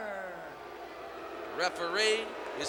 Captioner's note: crowd booing